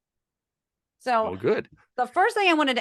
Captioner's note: laugh